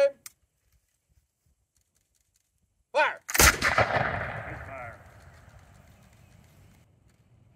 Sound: sounds of Muskets Firing!

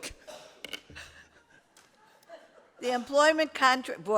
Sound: laughter

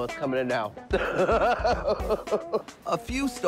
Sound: laughing

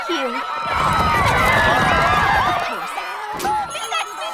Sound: crowd stampeding past skipper; shop bell chiming

